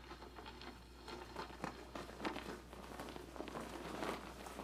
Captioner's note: flapping banner